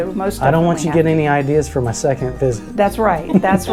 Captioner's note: laughing